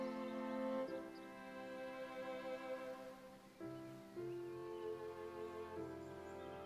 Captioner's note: birds chirping; gentle music